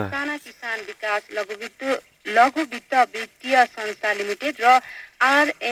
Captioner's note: radio playing